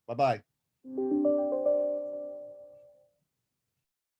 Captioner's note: computer chiming